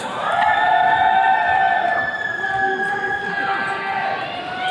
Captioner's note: attendees cheering